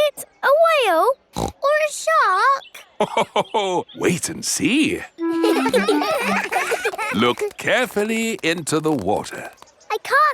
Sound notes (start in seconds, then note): 1.3 snorts; 5.2 laughs; 5.2 children laughing